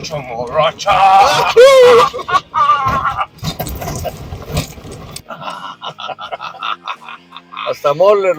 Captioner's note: laughter and excitement noises